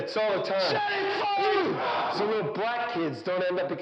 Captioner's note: yelling